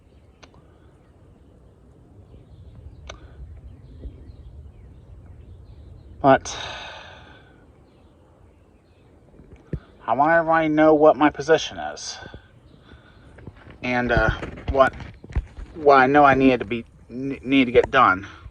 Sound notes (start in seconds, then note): none